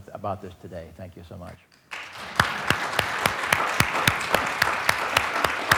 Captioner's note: audience applauds